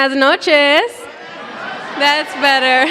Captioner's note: cheering